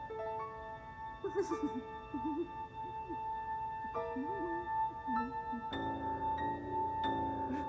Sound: whimpers

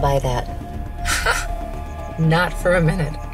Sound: laughs

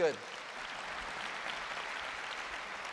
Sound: applause

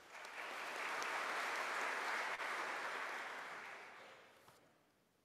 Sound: audience applauding

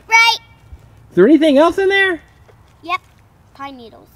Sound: voiceover

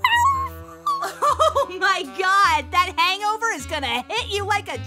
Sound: laughs

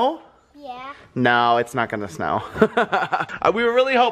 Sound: laughter

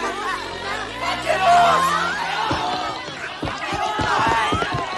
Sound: applause

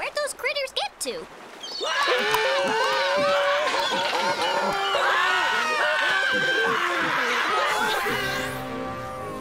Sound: screaming

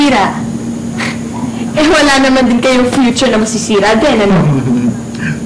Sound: scoffs

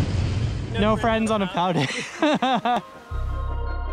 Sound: laughing; upbeat music

